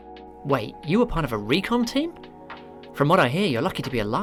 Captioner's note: real voice